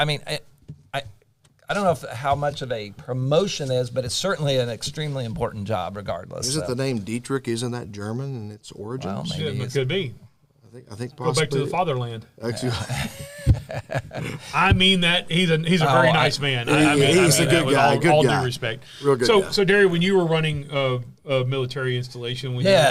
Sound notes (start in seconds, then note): 12.7 laughter